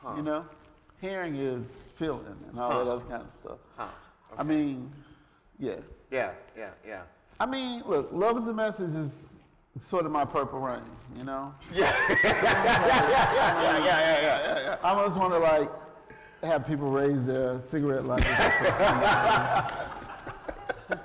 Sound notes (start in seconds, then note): 11.7 laughter